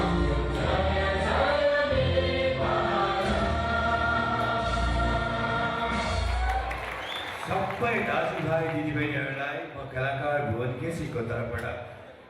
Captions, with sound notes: (audience cheers) (audience applauds) To all my brothers and sisters, I want to say...